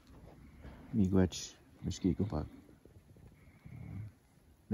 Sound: foreign language

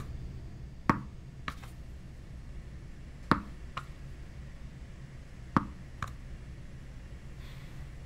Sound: ball bouncing off wall

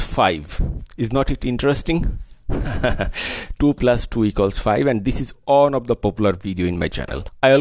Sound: laughing sound

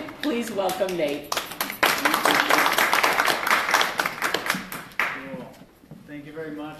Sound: applause

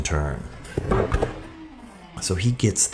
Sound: body thunking

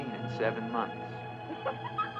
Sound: laughter

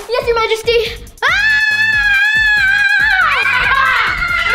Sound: screams; jester shouts

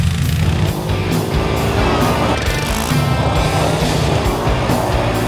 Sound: ATV engines roaring; upbeat rock music; ATV engines roaring

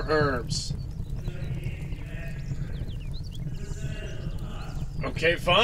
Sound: muffled yelling

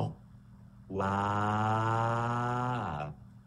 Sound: crying

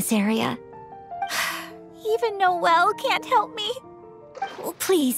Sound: sigh

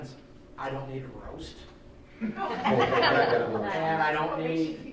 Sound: laughing

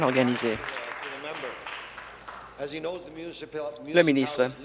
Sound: applause

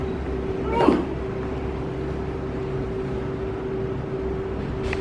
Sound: shopkeeper grunts

